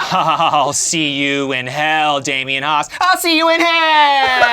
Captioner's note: laughs